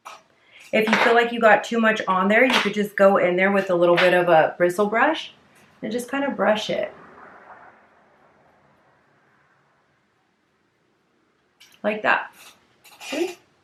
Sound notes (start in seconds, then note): 7.3 car passing